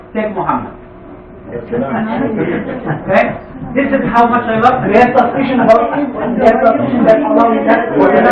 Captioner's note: gülüşmeler